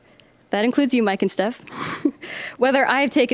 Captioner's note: chuckling